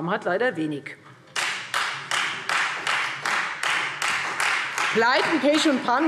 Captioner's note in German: Beifall Freie Demokraten